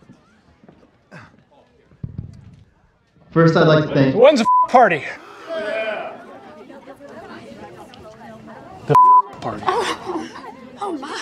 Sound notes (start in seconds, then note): 6.6 crowd chattering